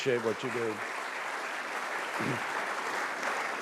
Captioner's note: applause